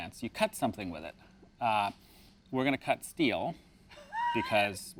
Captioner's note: laughs